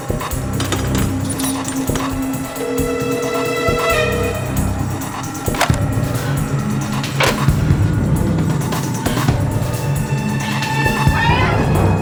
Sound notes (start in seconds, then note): 0.3 gate creaking; 2.9 phone ringing; 5.4 phone clicking